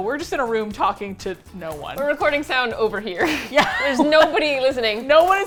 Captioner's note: laughs